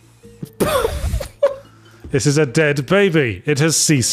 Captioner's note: laughs